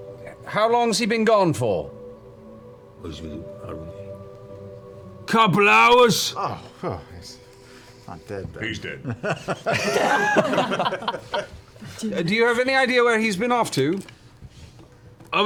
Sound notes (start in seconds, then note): 2.9 mutters; 9.0 laughter